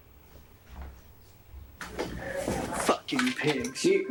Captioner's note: footsteps thudding